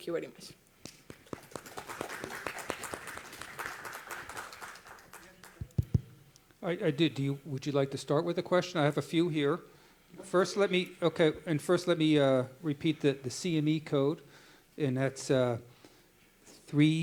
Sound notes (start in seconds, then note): 3.0 applause